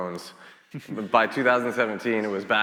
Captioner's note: chuckles